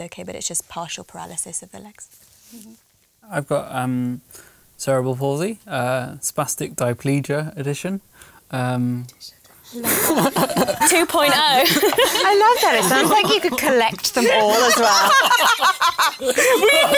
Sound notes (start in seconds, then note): 8.7 whispering